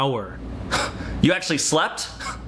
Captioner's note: scoffs